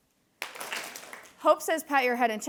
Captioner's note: attendees clapping